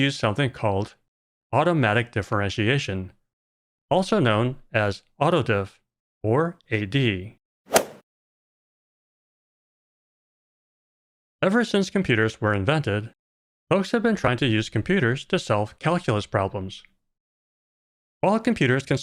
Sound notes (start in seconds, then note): 7.7 golf ball hit sound